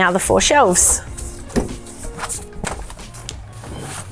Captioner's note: rustling